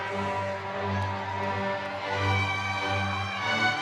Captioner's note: crowd cheering